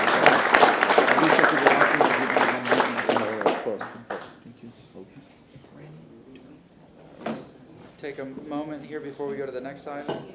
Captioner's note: applause